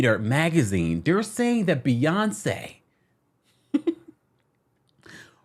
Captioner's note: laughs